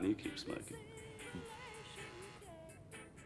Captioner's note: doorbell buzzes